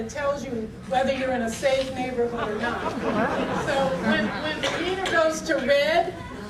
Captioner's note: audience laughter